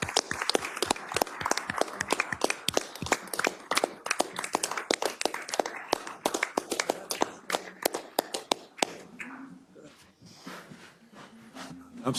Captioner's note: applause